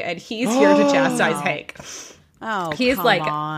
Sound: gasp

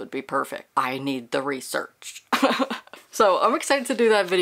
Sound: laughing

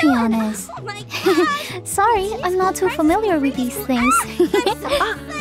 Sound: giggles

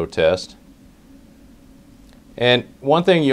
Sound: pause

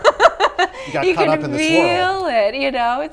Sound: laughs

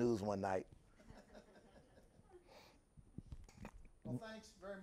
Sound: host and guests laughing

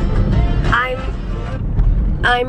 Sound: radio plays loudly; radio turns off

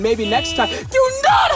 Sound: honk

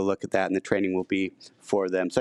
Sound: none

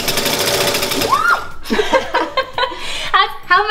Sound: machine humming; exclaiming and laughing

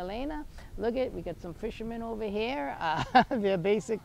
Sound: chuckles

